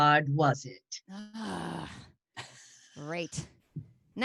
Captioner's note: sighs